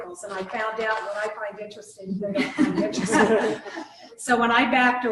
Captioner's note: laughter